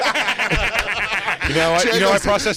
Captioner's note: laughter